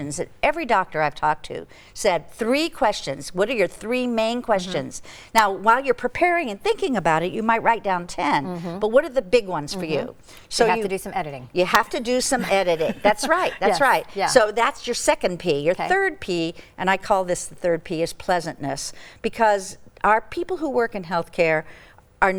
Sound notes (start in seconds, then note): 12.3 chuckling